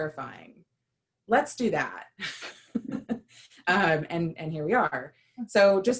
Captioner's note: laughter